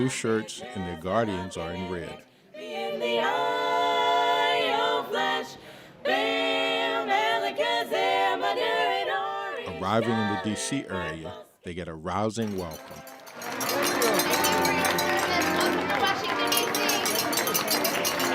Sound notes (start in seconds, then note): 6.6 1940's music playing; 14.0 crowd cheering